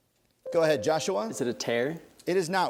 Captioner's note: ding